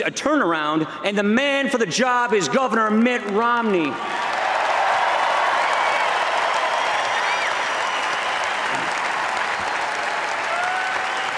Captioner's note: applause